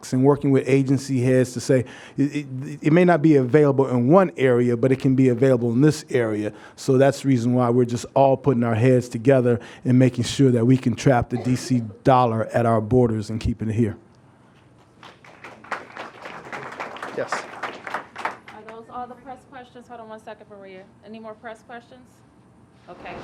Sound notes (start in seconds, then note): 14.6 applause